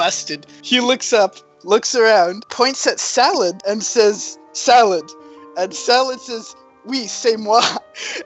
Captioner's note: in french